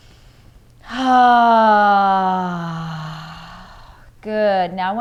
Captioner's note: loud sighing